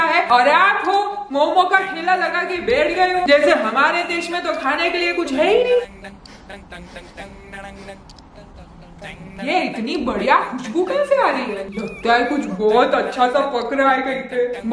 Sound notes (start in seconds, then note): 5.8 sniffing